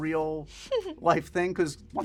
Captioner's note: laughing